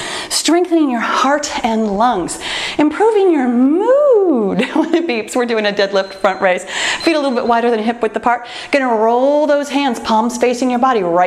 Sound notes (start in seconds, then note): 4.3 laughs; 5.7 timer beeps